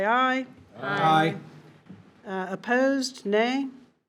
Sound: in Unison

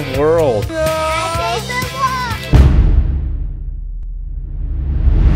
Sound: yells

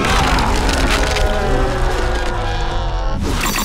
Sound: screaming

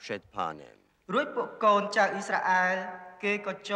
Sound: speaking foreign language

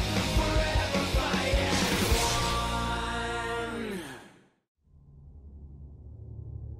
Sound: none

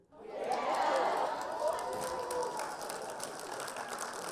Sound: all cheer

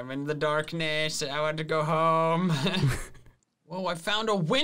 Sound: laughs

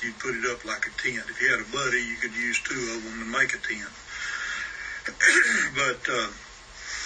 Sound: coughs

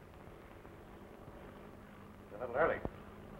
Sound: airplane engine rumbling

